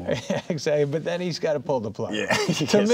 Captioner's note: laughing